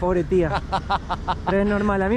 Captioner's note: laughs